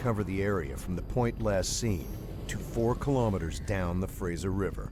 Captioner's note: voiceover